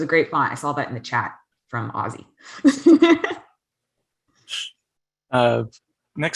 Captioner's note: laughs